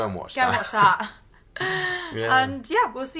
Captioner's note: laughs